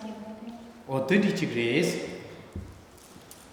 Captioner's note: speaking tibetan